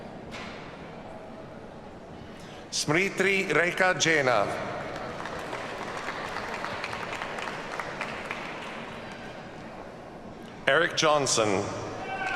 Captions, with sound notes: Smriti Rekha Jena. (audience applauds) Eric Johnson.